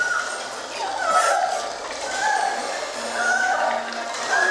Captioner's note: screaming continues